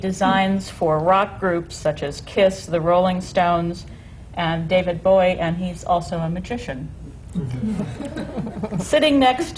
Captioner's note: laughter